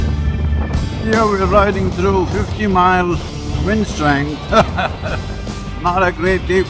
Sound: laughs

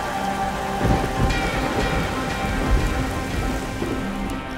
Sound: thunder

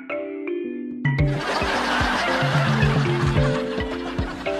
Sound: laughs

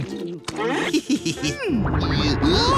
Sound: chuckles

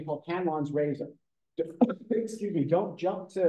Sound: sneezes

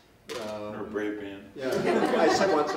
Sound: laughter

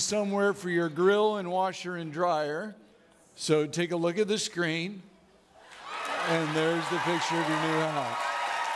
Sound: audience clapping

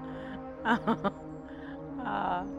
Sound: giggling

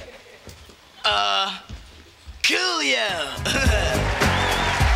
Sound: chuckles

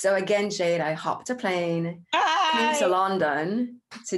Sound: shouts happily

